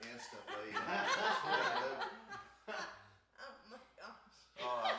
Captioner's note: group laughs